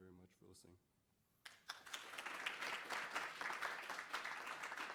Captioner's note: applause